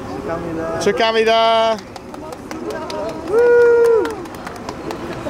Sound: speaking foreign language

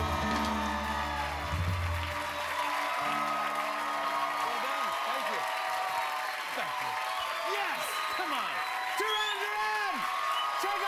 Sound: cheers and applause

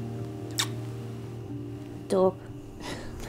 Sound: kiss

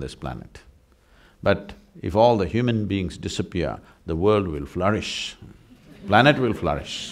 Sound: laughter

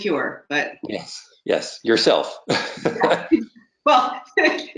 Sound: laughs

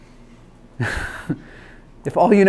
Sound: laughs

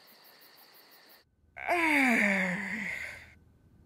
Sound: Leia sighs

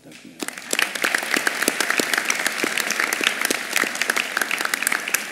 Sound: applause

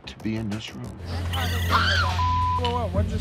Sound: woman screaming

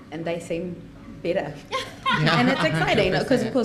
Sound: laughs

